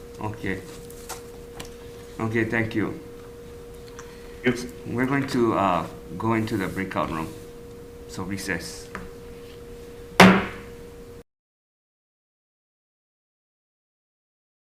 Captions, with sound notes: Okay. Okay, thank you. We're going to go into the breakout room. So recess. (gavel bangs)